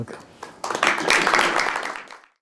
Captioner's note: applause